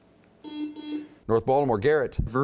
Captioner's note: buzzing